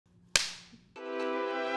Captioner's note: slate clap; intro music